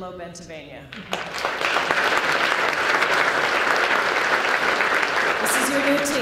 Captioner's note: applause